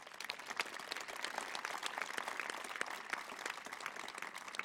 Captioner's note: applause